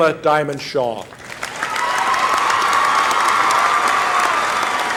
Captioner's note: applause